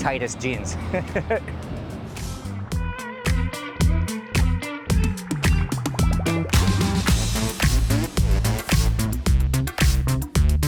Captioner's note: laughs